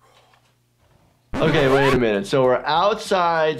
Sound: record scratches

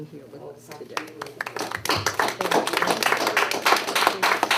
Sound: all applaud

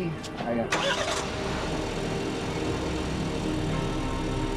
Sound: car starts; tense music

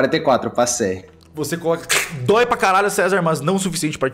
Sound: crack

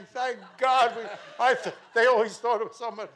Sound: mel rasps

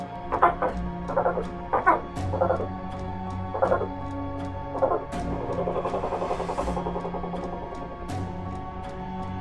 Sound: bird sounds

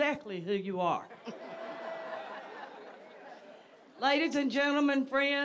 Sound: audience laughs

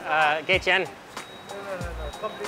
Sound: speaking in foreign language

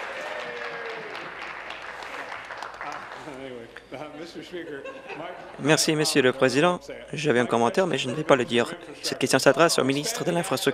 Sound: applause

